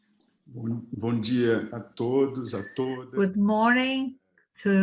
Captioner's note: speaks in foreign language